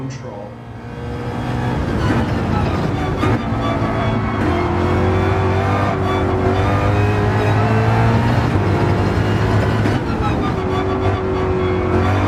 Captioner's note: engines revving, cars noises